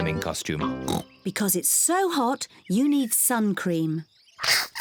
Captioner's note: oinks